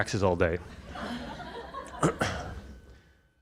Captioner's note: audience laughter